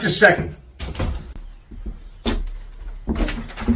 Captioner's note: birds chirping; door clicks; door clicks